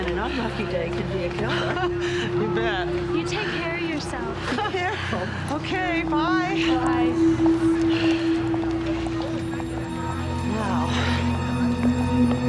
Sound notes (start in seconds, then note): 1.4 Nora laughs; 9.7 tense music